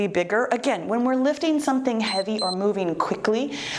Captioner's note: timer beeps